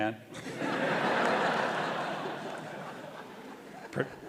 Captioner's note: audience laughing